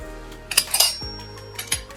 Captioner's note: clank